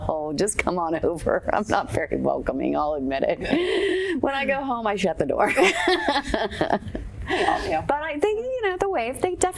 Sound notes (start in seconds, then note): 5.8 laughing